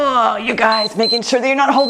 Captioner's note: timer beeps